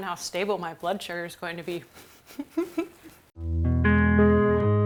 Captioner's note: chuckles; mellow electric guitar music